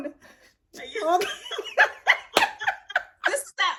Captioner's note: both laugh